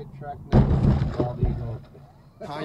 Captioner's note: massive boncc